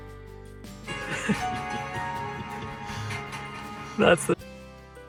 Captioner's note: laughing